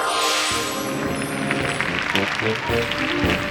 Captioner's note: applause; circus music